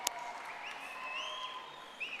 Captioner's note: audience applauding